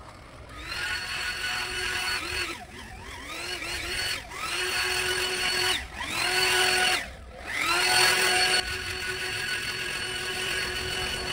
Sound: leaf Blower Sounds

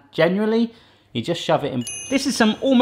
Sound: ding

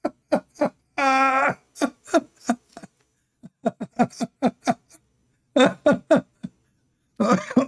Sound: Ketawa

